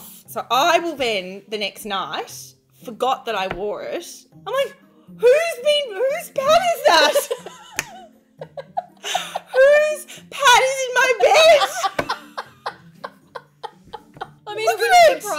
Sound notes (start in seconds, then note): 8.4 women laughing; 11.2 laughing